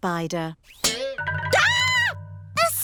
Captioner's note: screams